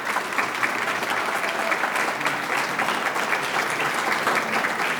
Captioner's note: audience claps